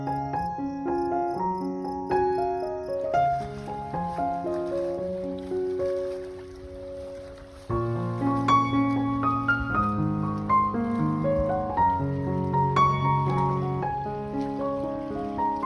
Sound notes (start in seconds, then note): 4.3 walking down to the river, sounds of water